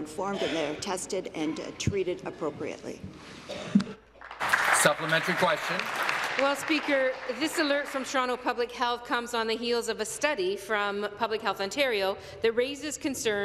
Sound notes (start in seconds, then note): 6.5 applause